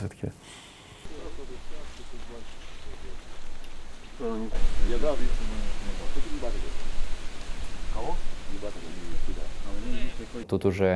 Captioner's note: people talking quietly